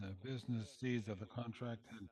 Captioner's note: speaking French